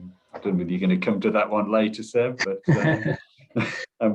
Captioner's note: chuckling